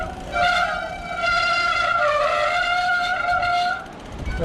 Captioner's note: disc brake squeal